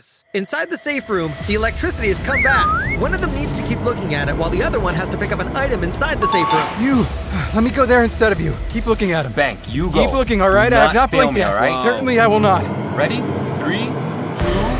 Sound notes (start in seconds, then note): 7.3 sighs